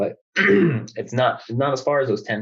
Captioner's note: clears throat